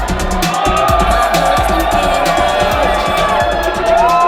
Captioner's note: crowd cheers